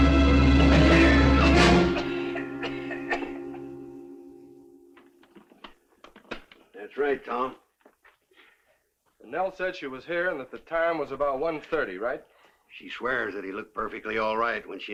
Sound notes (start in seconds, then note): 1.8 Harry coughing